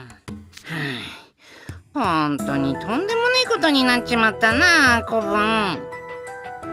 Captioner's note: sigh